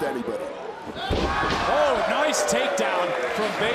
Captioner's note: crowd cheers